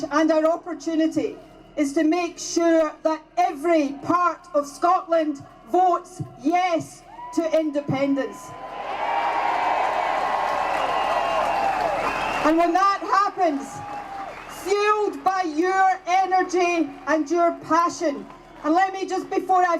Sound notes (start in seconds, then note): 8.2 cheers